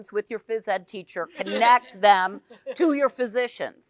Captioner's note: group chuckles